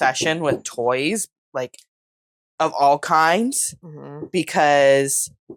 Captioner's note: concerned mmhm